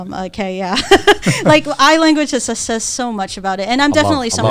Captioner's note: laughs